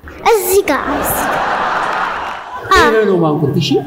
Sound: laughter

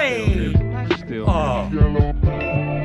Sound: groaning

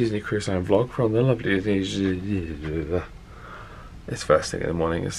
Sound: mumbles groggily

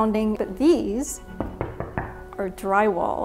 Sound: hollow tapping noise

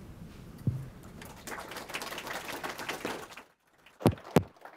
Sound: applause

